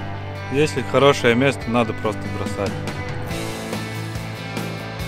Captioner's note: speak Russian